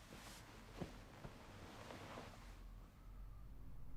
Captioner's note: sheet rustling